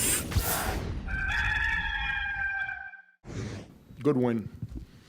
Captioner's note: rooster crowing